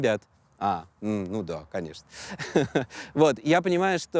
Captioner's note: chuckles